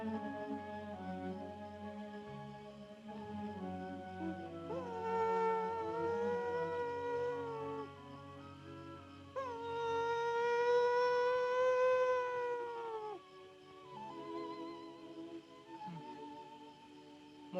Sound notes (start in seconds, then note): 0.2 sentimental music; 4.4 Mowgli howls softly; 13.4 sentimental music